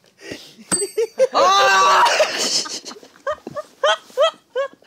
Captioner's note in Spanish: Lamentos